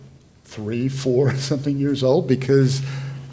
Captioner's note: laughs